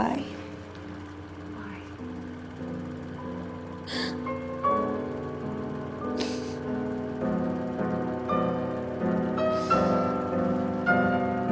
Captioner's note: sniffle